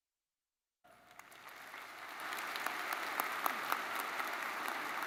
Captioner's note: audience applauds